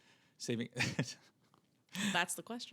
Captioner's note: laughs